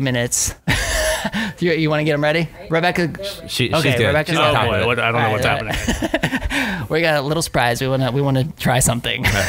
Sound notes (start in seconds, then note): 1.1 chuckles; 5.6 laughter